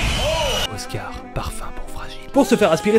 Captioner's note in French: chuchotant